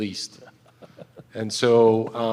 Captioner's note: laughter